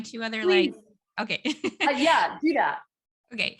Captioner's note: laughs